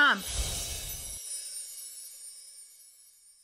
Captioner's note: chimes ringing